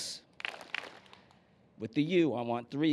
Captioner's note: clapping